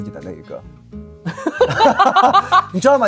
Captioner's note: laughs